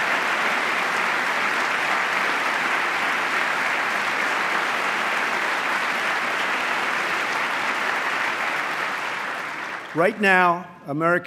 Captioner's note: applause